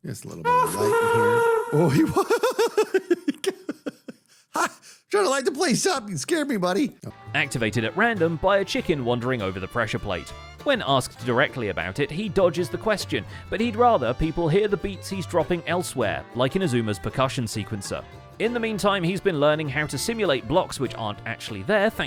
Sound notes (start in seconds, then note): 0.6 happy ghast sound; 3.6 startled laughter